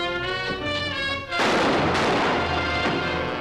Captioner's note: gunshots